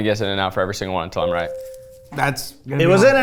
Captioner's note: bell ringing